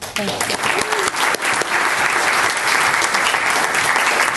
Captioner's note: audience applauds